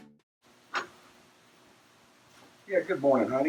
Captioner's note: door clatters open